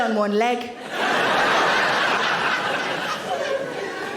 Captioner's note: audience laughing